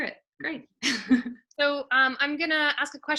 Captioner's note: chuckling